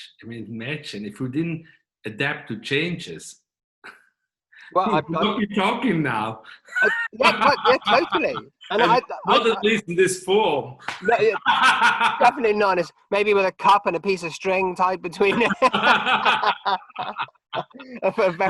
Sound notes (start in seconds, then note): 6.5 laughing; 10.9 laughing; 15.3 both laughing